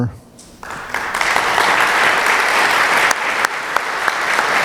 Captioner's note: applause